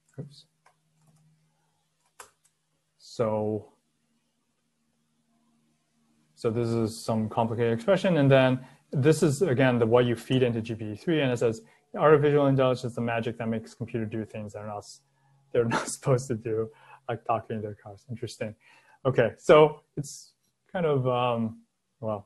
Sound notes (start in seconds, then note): 15.6 laughing